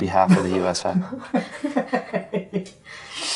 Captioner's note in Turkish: Kahkaha